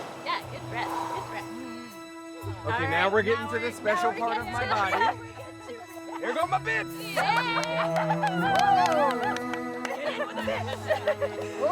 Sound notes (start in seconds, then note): 4.5 all laughing; 7.1 all cheering